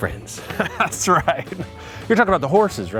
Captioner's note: chuckles